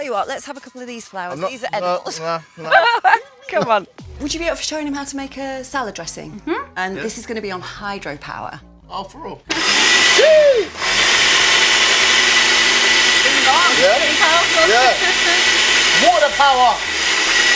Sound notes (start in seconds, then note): 2.4 laughs; 9.5 blender whirring; 15.1 laughs